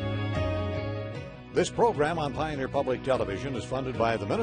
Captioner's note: voiceover